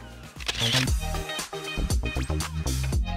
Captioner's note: camera Shutter Clicks